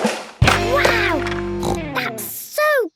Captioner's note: snorts